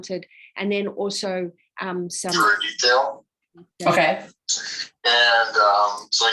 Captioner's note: radio interference drowns out speaker